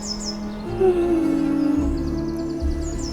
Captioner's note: yawn